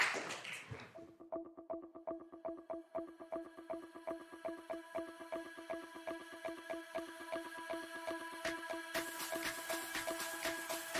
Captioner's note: applause